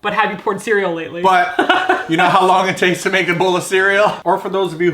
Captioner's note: laughing